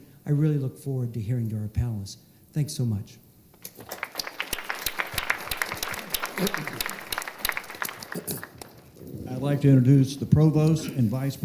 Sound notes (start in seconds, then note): 3.6 applause